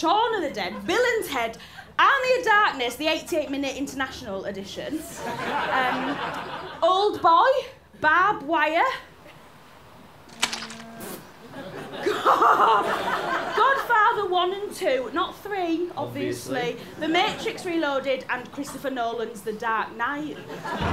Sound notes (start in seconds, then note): 4.9 laughter; 10.4 thick squelch; 11.5 laughter